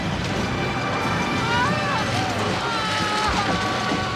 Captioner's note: berteriak